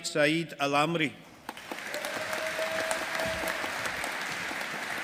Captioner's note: audience applauding